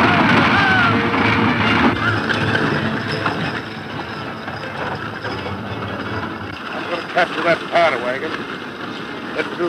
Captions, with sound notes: (loud yelling to urge horses forward) - I'm gonna capture that ammo wagon,